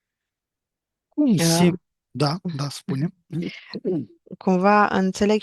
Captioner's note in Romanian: voce dreasă